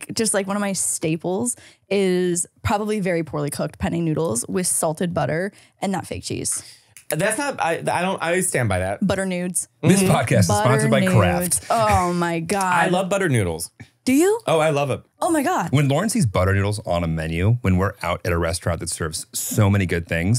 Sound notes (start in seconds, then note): 12.4 laughing